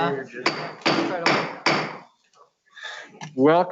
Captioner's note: gavel banging